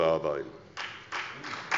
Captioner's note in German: Beifall bei der SPD